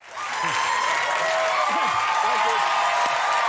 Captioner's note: audience cheering and applauding